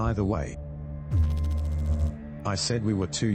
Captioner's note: electrical noise